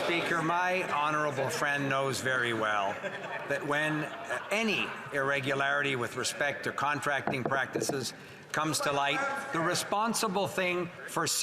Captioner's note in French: voix de l'interprète